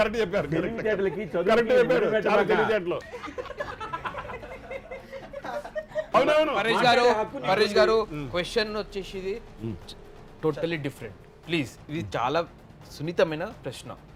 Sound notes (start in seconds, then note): 3.0 student laughing